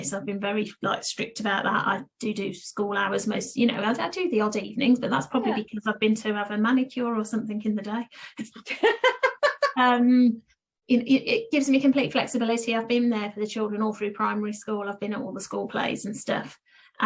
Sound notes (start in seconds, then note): 8.4 laughs